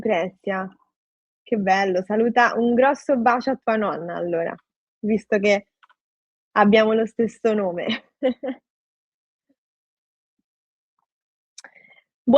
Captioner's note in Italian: risate